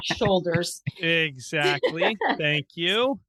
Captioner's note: laughing